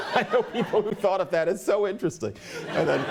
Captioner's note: laughter